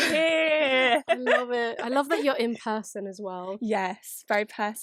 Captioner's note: laughs